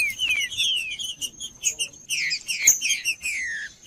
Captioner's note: trinca ferro cantando